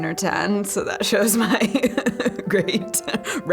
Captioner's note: laughing